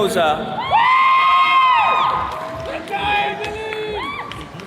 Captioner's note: attendees cheering